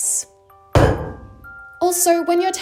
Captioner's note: metalic thud